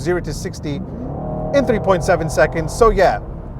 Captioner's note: engine revving